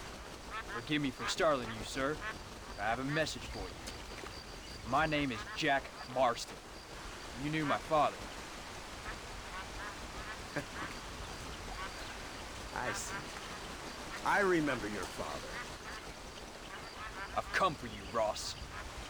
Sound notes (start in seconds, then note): 10.2 laugh